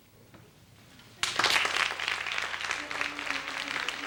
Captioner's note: applause